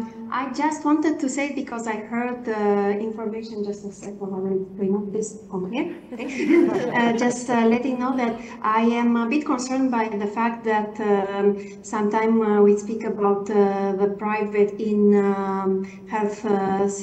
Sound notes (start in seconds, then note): 6.0 laughter